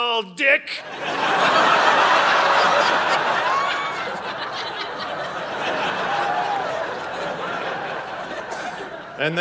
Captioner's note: audience laughing